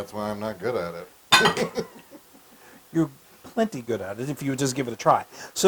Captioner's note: laugh